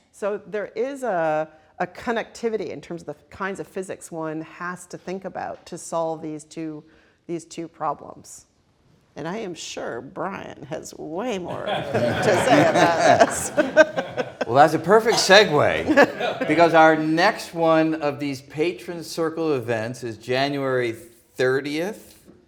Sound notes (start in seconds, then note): 13.4 all laughing